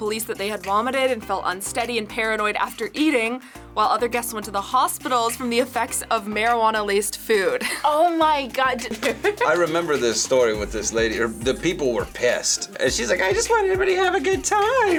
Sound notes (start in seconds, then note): 8.8 laughs